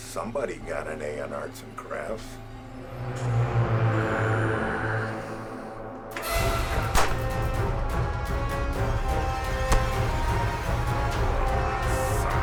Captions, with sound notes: Well, somebody got an A in arts and crafts. (dramatic music) (tense music) (gunshot popping) (suspenseful music)